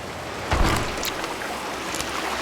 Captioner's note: wood Crashing